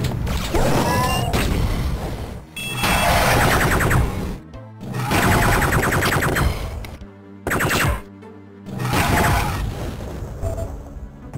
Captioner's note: awfully perfect placed Drones explosions